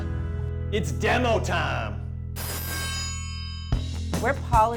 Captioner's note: triangle ringing